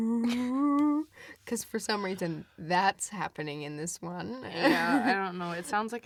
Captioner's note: laughs